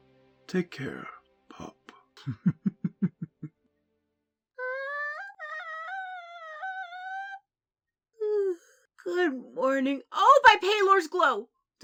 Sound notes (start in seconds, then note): 2.2 Thorn cackles lowly as he sneaks away; 4.6 distressed Flea Noises; 8.6 yawning